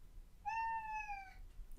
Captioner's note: cat meows